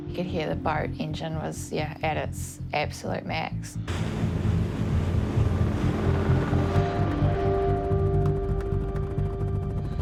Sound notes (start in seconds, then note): 3.8 boat engine roars